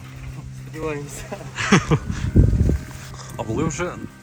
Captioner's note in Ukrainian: сміх